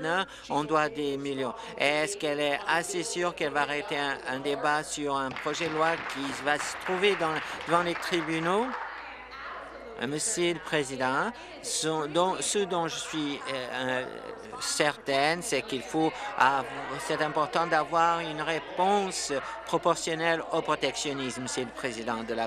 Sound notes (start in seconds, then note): 9.4 applause